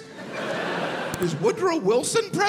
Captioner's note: crowd laughs